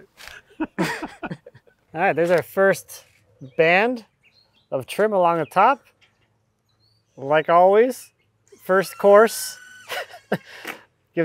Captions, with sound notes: That's the scary part. (both laughing) All right, there's our first band of trim along the top. Like always, the first course (laughs)